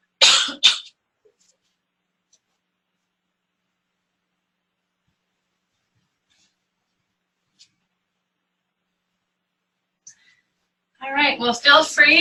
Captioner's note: pause